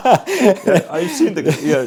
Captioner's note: laughing